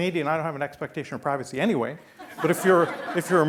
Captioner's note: laughing